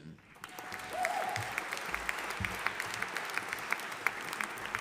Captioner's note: audience applauding